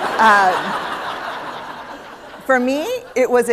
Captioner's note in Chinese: 笑聲